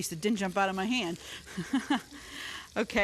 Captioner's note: chuckling